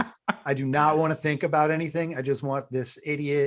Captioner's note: laughs